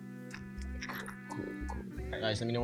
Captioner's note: munching